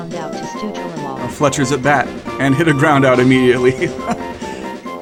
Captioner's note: laughs